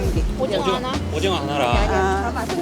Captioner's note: speaking in foreign language